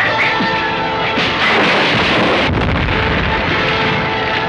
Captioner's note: sirens wailing; fists connecting; fire raging